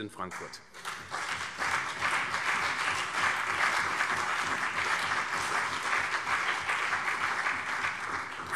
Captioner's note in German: Beifall CDU und BÜNDNIS 90/DIE GRÜNEN